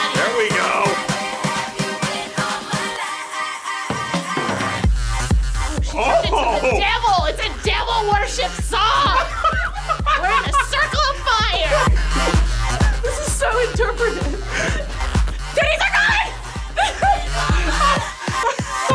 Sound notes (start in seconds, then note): 9.0 laughs; 17.0 laughs